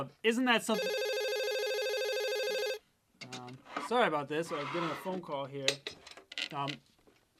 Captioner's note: phone rings